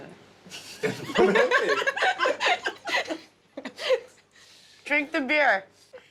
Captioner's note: all but Phil laughing